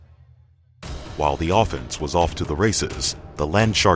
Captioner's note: voiceover